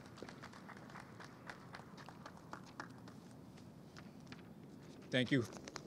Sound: clapping

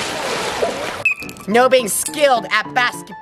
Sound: water splashes; whistle blows

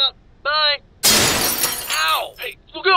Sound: crash

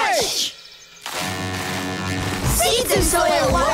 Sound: horn blasting

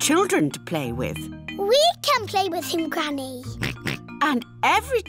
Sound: oinks

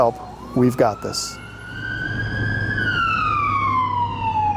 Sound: sirens wailing

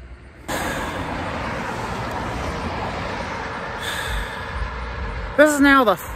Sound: Traffic on Paulding Road

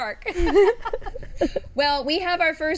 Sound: all laughing

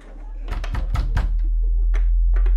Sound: knocking on door

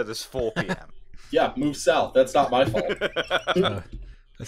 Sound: laughter

